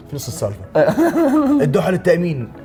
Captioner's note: laughs